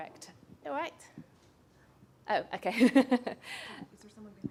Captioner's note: laughs